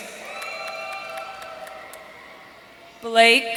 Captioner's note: audience cheering